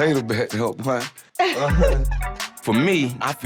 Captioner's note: laughing